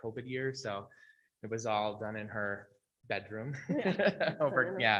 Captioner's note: laughs